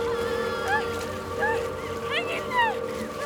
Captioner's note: crying